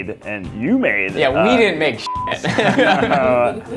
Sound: beep; laughter

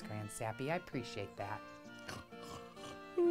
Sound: Grand Sappy snorts and yawns

